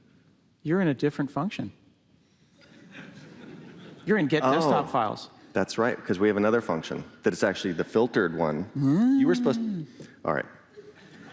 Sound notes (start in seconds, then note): 2.6 laughter